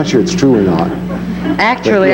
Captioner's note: audience laughing